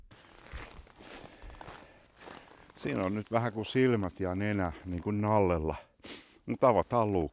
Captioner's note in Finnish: luistelun ääntä